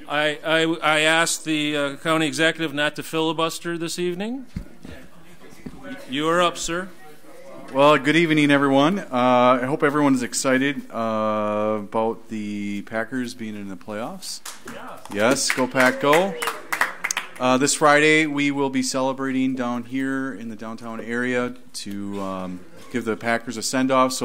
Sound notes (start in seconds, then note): 4.6 overlapping chattering; 14.4 audience applauds; 14.6 group cheers